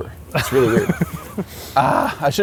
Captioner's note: laughs